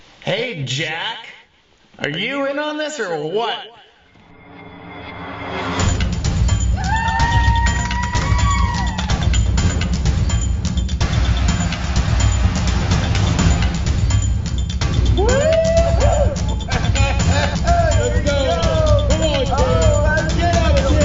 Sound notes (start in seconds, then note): 6.7 cheering; 10.6 tense instrumental music; 15.4 hooting